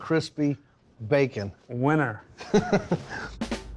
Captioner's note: laughs